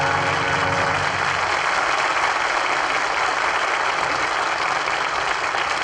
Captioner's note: applause